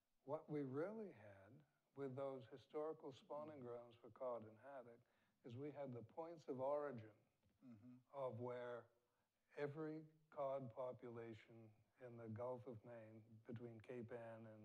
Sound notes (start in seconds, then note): none